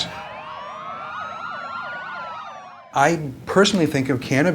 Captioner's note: sirens wail